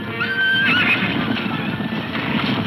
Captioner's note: hooves thundering